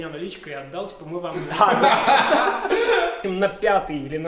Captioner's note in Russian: гомерический смех